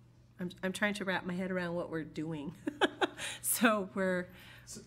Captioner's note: laughter